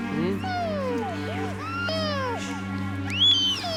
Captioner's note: crying; crying continues